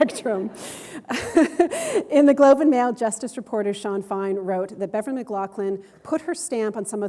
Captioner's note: chuckle